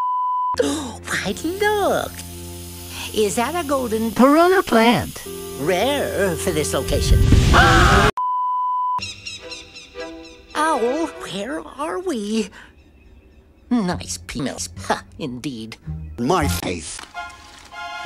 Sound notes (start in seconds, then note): 1.2 gasp; 7.3 fire Sounds, Screaming